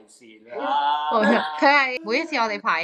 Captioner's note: screaming